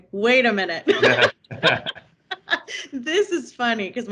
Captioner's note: laughing